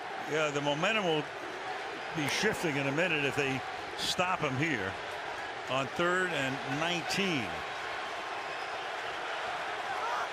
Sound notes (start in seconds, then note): 8.0 crowd cheering